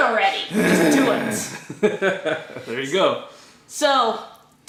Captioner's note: laughter